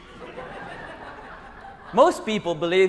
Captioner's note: laughter